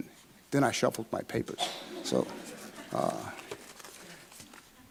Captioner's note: audience laughing